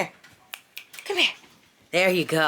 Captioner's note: fingers snapping